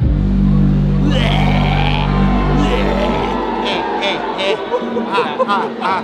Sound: heavy bass in the background; growling, making animal sounds

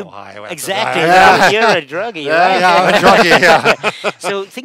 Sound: laughing

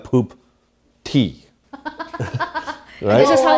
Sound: laughing

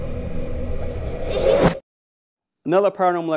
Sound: spooky giggle

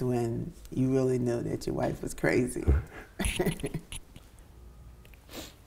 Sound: both chuckle

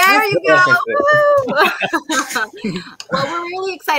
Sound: all laughing

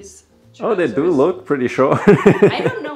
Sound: laughs

